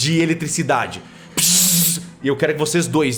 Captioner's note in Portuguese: bzz